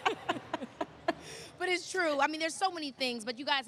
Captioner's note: laughter